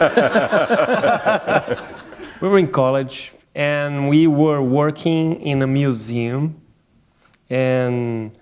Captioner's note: laughter